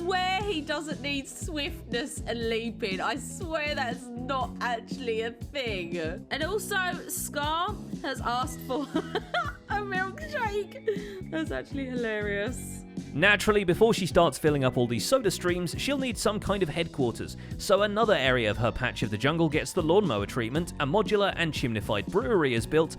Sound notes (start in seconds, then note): 8.8 laughs